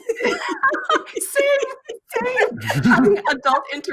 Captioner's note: laughing